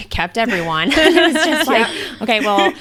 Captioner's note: laughs